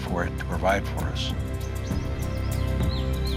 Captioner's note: birds chirping